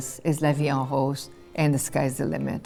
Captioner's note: speaking French